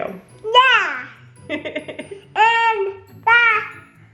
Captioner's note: chuckles